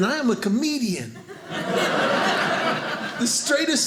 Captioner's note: audience laughing